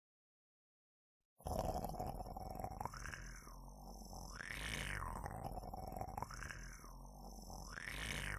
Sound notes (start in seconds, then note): 1.4 monster growling